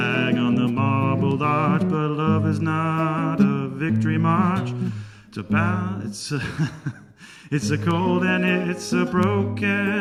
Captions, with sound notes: "On the marble arch but love is not..." "A victory march" "It's a ..." (laughs) "It's a cold and it's a broken..."